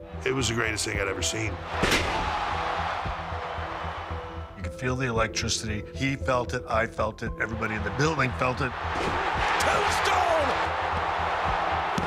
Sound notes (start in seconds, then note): 1.6 audience cheering